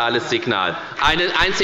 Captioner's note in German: Beifall bei der FDP